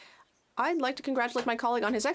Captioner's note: speaking French